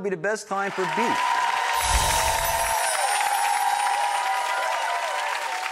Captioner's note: audience applauds